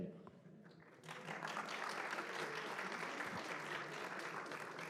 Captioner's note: applause